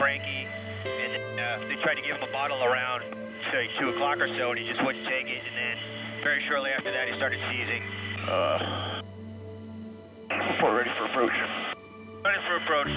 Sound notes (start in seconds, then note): 8.6 groans